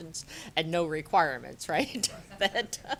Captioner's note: laughter